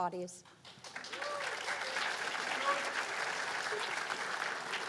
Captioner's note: cheers and applause